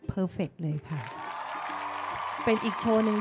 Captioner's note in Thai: เสียงเอฟเฟกต์ปรบมือ